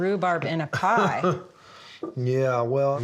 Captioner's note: laughs